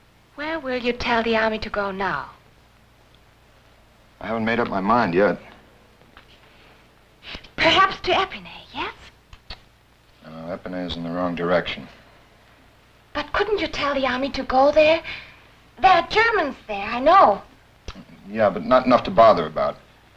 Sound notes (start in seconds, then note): none